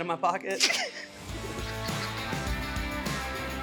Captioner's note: laughs; upbeat music